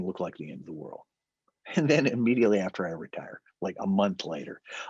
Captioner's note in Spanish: risas